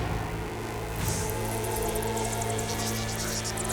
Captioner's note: bugs squeaking